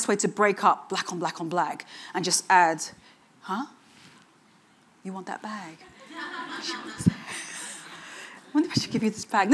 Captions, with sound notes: to break up black on black on black and just add- Huh? You want that bag? (audience chuckling) I wonder if I should give you this bag.